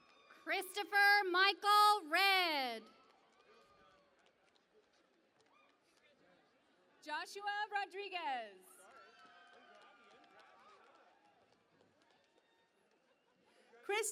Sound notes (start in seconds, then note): 4.4 cheering and Applause; 10.4 cheering and Applause